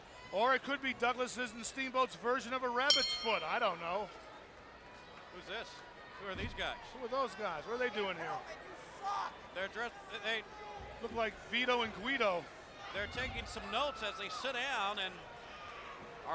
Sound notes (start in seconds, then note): 2.9 bell rings